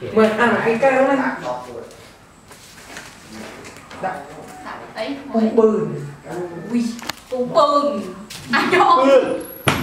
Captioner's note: chattering